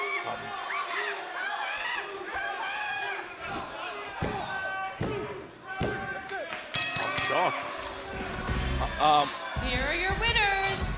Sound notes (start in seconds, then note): 6.7 bell ringing